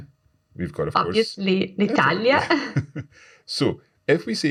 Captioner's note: laughs